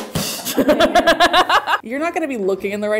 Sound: laughter

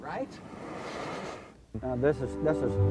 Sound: tiger roaring

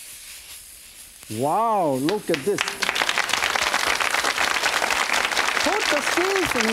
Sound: audience claps

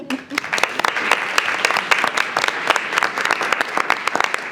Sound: everybody clapping

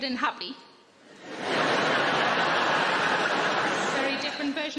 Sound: audience laughing

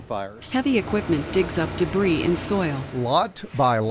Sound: machinery whirring

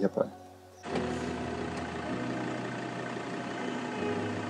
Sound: engine rumbling

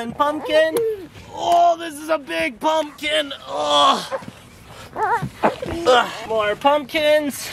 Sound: groaning

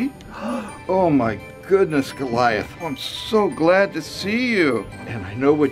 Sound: gasps

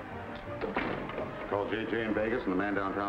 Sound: door clanks

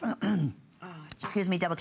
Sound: coughing

